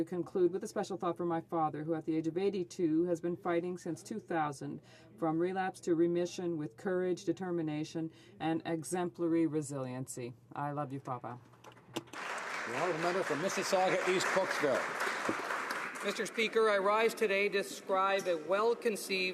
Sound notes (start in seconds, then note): 15.7 some Applause